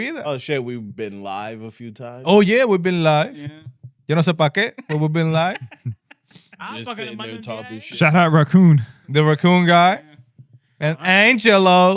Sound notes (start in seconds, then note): 4.1 speaking In Foreign Language